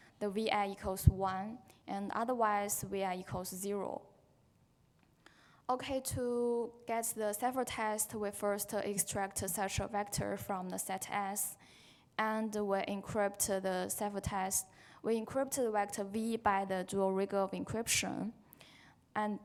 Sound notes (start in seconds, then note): none